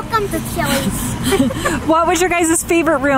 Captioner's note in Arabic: ضحكات جماعية